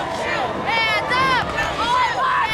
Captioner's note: crowd